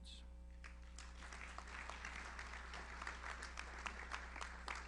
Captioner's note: audience applauds